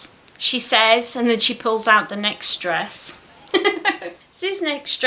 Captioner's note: giggles